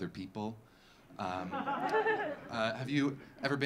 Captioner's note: audience laughing